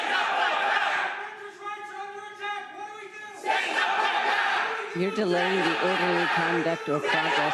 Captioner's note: crowd chanting